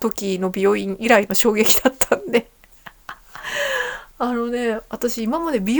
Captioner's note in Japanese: 笑い; 息をのむ音